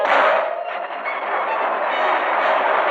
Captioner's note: rockets whooshing